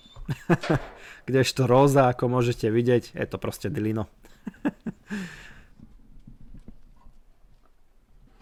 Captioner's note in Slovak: smiech